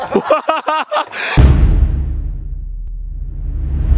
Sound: laughing

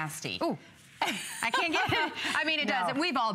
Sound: laughter

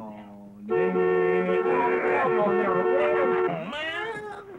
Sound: horn beeping

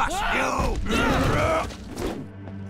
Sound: grunting

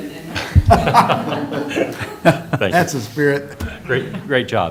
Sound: laughter

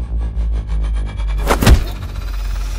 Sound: thud

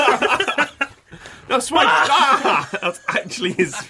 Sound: laughter; shouts

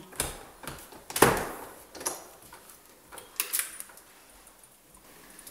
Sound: sound of closing the door

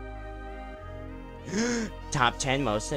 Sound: epic gasp

